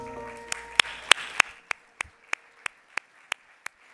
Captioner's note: applause